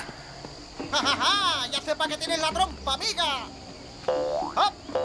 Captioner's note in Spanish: ríe